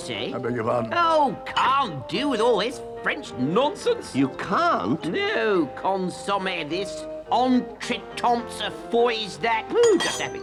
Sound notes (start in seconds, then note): 6.5 speaks gibberish